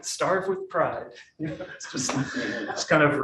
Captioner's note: audience laughing